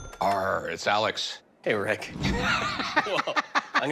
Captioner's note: laughs